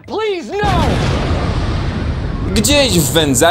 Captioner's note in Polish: boom!